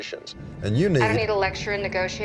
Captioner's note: on phone